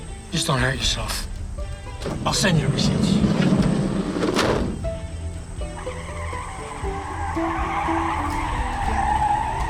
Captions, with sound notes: JUST DON'T HURT YOURSELF. I'LL SEND YOU A RECEIPT. [tires squealing]